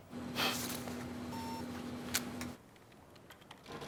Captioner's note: alarm